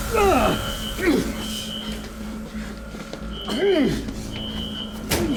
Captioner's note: Malkam groaning in pain